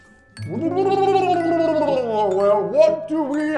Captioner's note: gurgling